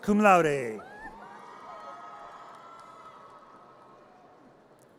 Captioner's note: audience cheers